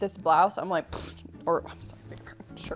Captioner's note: scoffs